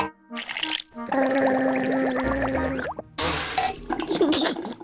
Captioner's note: gargles